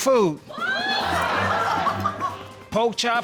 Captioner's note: laughter